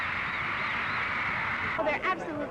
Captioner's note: cheering